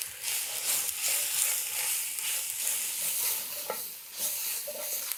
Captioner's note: pan sizzling